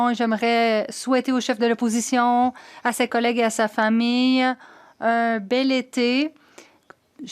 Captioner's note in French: voix de l'interprète